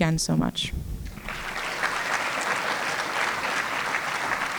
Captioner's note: applause